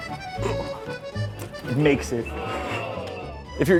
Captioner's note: audition ooh